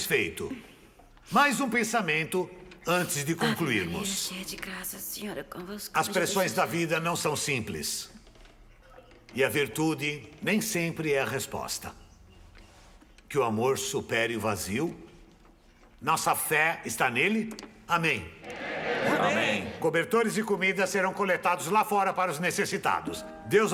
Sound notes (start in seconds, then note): 3.8 whispering